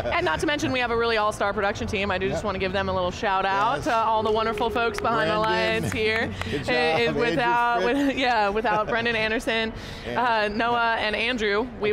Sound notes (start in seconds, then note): 4.1 people clapping